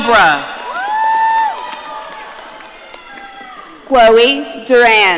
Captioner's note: audience cheering